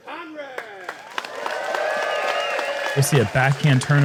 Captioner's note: applause